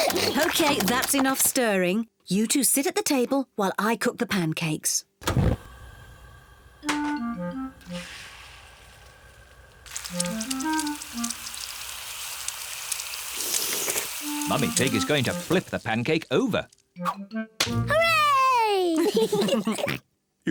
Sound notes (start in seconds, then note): 12.8 all slurp; 18.7 kids and mummy pig laugh